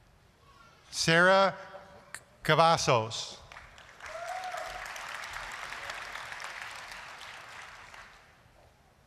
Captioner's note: applause